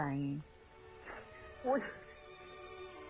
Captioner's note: sobbing